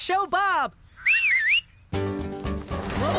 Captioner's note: Spud Whistles